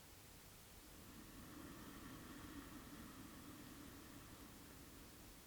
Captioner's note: long inhale